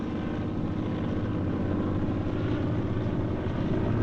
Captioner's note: airplane Overhead